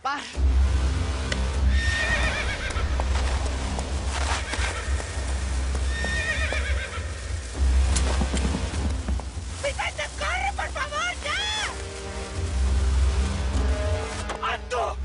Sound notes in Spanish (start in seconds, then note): 3.0 Relinchos